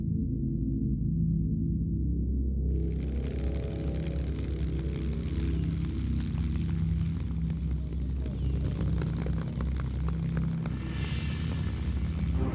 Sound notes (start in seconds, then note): 3.7 plane engine revving